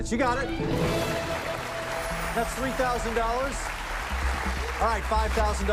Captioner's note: cheers and applause